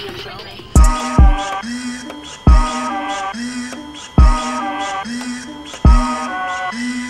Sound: machine whirs; dramatic hip hop music

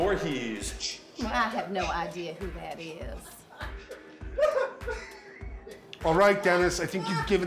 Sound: man laughing

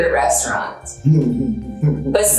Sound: laughing

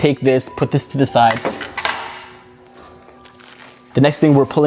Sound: device clatters

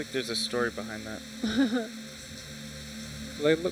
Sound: chuckles

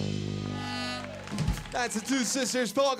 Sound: crowd cheering

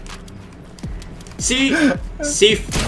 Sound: laughing

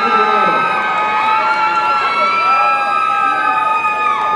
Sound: audience cheering

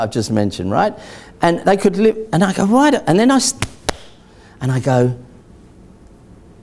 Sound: claps

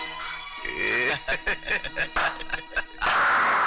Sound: laughing

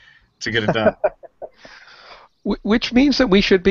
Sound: laughs

